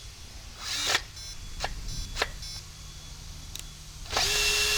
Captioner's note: drill beeps; drill buzzes